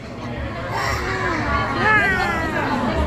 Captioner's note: crying